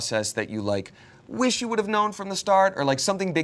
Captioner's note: none